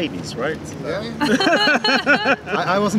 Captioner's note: laughter